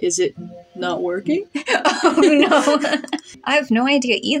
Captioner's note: chuckle; laughing